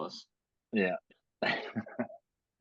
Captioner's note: laugh